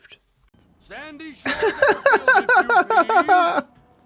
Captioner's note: laughs